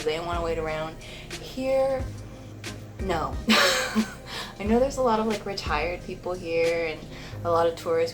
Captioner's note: laughs